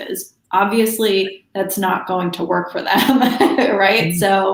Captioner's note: laughs